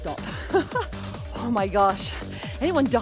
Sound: laughing

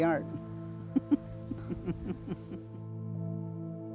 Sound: chuckling

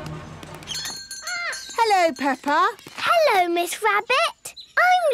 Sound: bell jingling

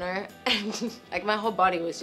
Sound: laughs

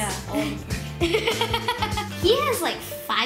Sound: laughs

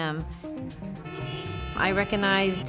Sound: horns honk

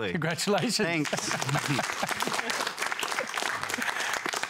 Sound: applause

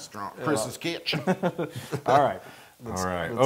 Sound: laugh

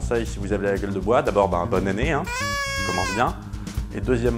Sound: whistles

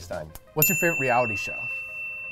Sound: dinging

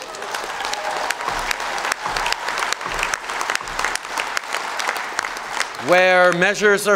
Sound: applause

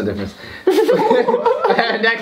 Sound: giggle

